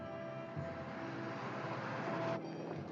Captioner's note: car rumbles